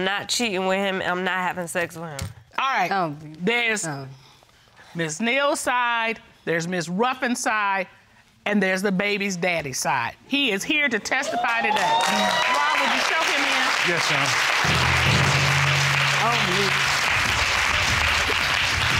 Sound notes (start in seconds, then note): 11.4 audience whooping; 15.3 audience applauding